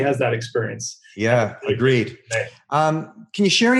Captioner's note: audio cutting out